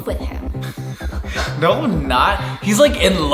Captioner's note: laughing